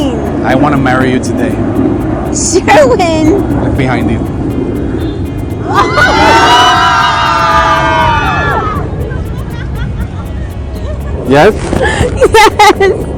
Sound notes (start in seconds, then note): 5.6 everyone hollering